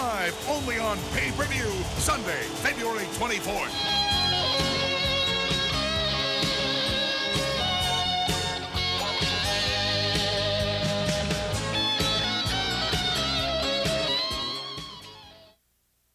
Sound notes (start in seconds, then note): 4.0 crowd cheering; 4.0 rock music